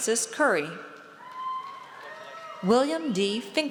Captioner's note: audience cheers